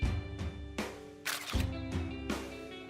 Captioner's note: camera Clicking